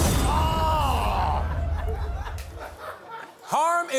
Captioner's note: laughter